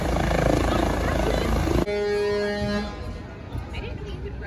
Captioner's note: trucks honking